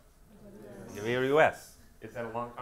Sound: audience members talking at once

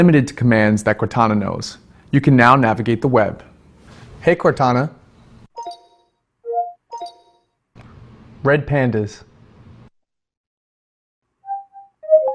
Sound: beeping noise

